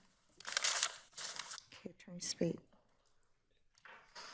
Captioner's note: papers rustling